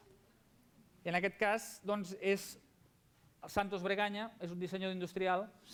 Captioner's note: non-english speech